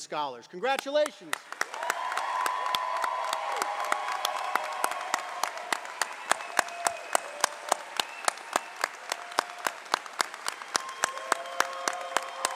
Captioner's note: cheering and applause